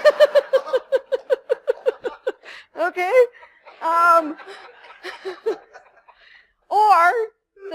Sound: laughter

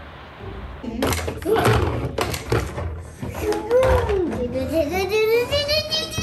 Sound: plastic toys bang and crash

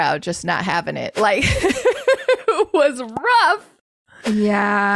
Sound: laughs

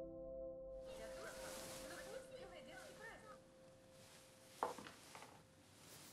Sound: speaking in a foreign language

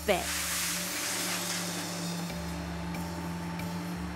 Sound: metal clanging

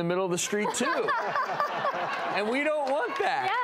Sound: laughing

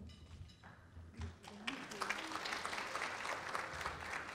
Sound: applause

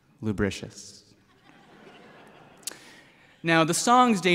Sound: laughter

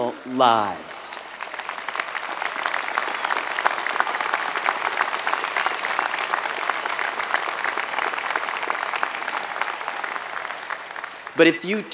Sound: applause

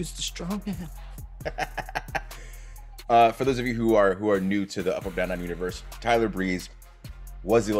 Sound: laugh

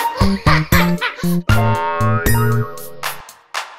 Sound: child laughing

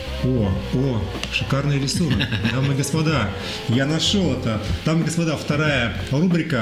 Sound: laughs

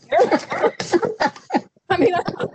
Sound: laughs

